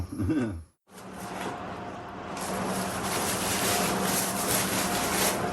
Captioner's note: paper rustling